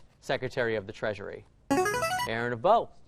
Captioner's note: chiming